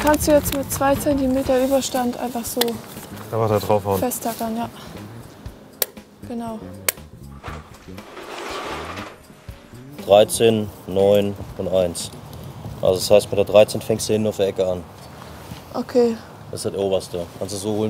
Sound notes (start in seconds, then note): 5.7 clicking; 7.4 clattering